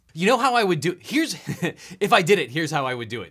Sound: chuckles

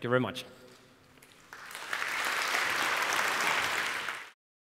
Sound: applause

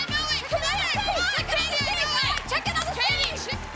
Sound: all shouting at once

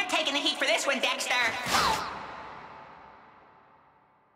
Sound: crash

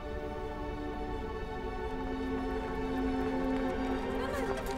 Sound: street settlers shouting

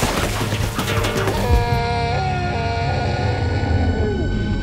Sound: gasping

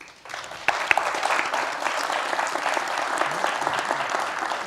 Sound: applause

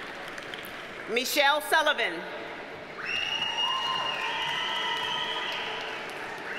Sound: audience cheers and applauds

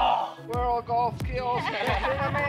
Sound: groans; laughs

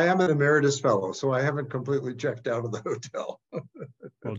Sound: laugh

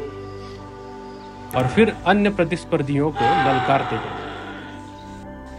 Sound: deer Rutting Call

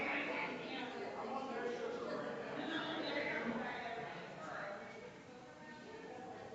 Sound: people chattering distantly continues

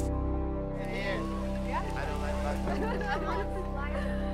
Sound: laughter

